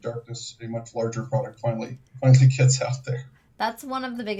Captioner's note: laughs